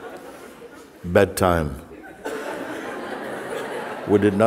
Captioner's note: laughter